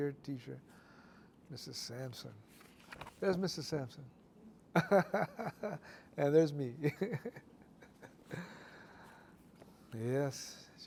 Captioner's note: laughter